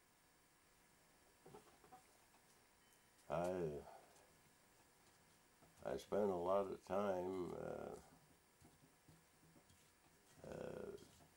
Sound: pause

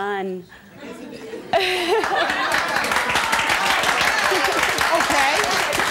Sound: audience clapping and cheering

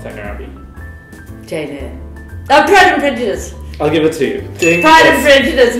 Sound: ding!

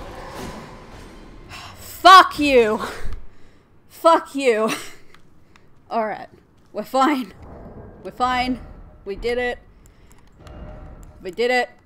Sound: sigh

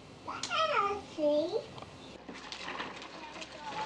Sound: babbling

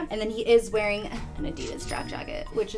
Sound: none

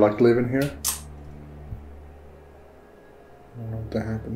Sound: something clicking

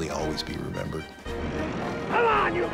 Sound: vehicle engines revving

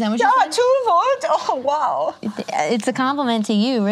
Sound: imitates German accent

